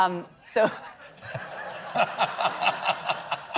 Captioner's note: laughter